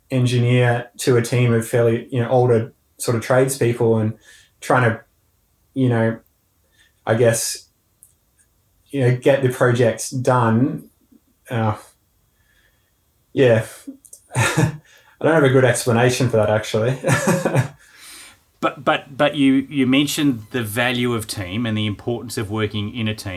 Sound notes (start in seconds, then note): 16.7 laughing